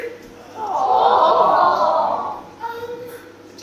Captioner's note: audience:awh!